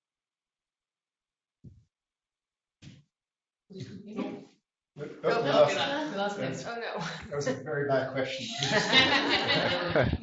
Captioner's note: laughter